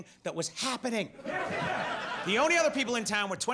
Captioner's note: audience laughs